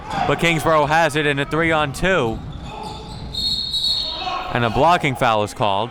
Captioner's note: whistle blowing